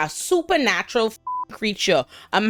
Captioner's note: beep